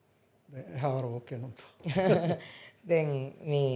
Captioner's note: chuckles